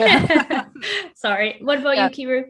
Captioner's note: laughing